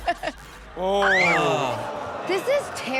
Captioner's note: Chanel shrieks; audience gasps